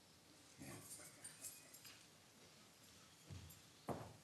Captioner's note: keys jangling; footsteps clanking